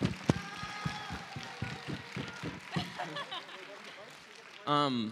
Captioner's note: applause; laughing